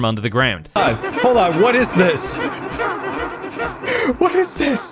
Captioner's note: many layered witch mob noises